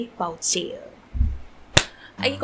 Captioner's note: clap